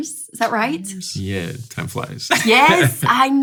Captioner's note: laughing